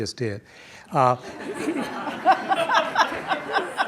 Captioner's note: laughs